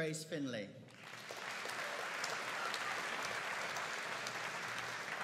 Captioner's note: audience applauding